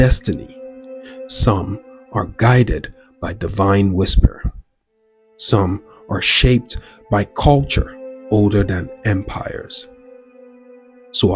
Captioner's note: divine whisper